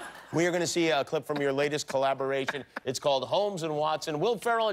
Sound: laughter

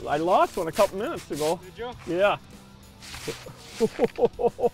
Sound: laughing

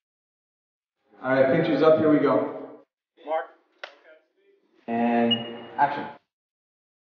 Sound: clapboard sound

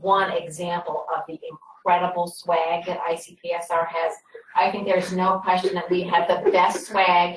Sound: laughter

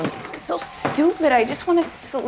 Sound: heavy footsteps creaking

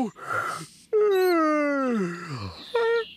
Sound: yawns

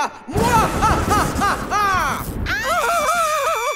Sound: Iris and Cathon screaming; laughing wickedly

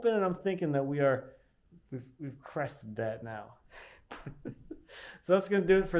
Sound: laughing

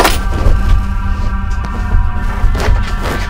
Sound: blanket ruffles

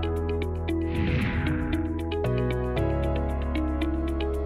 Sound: swooshing

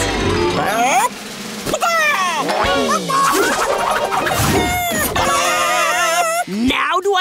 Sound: clucking

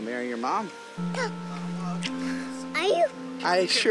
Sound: child gasps

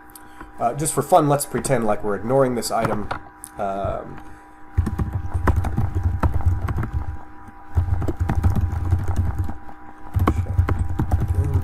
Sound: typing

